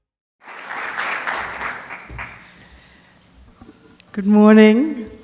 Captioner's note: applause